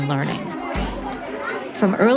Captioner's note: people chattering